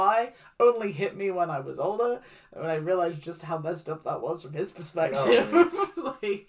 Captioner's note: laughs